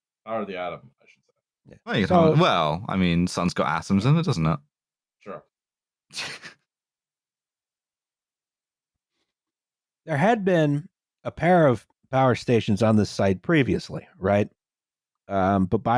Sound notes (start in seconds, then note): 6.2 quiet laughter